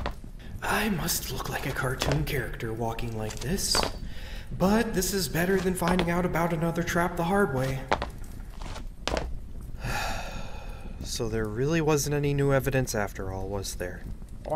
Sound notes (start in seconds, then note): 9.8 sigh